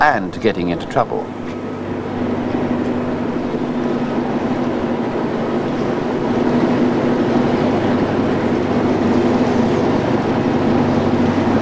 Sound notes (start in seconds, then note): 6.0 sound of ship's engine